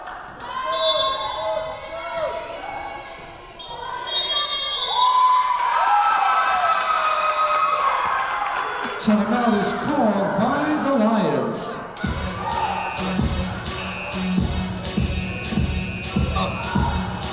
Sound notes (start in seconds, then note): 1.2 whistle blowing; 3.6 double whistle blowing; 6.5 crowd cheering; 12.0 upbeat music